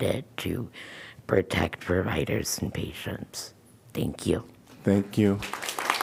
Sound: applause

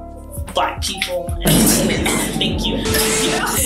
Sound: coughs

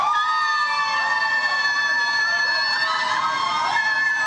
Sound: audience cheers

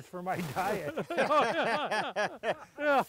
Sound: laughing

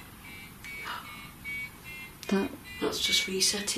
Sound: loud beeping

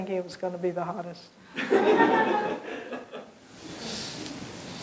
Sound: laughter

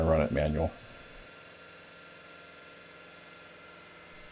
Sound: saw grinding

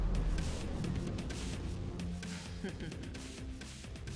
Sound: chuckling

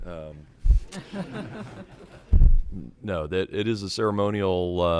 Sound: chuckling

